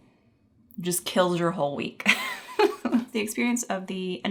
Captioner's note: chuckling